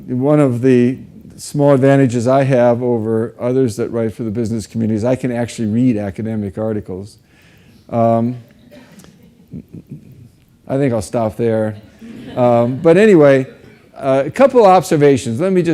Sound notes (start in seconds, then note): 11.7 audience laughs